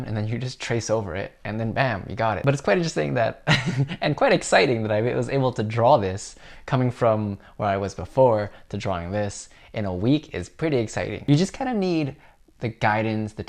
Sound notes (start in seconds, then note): 3.7 laughs